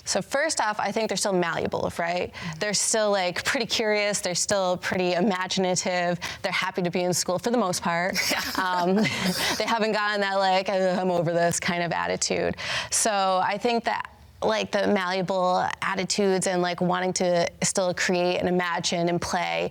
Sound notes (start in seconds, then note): 8.1 laughs; 10.7 groaning